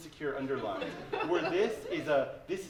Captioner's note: laughter